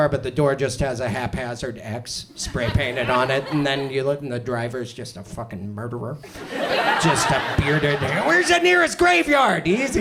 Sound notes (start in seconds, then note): 6.2 audience laughs